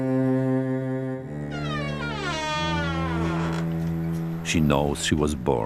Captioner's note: door creaking